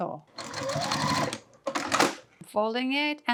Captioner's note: machine whirring